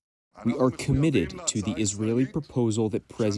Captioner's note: through translator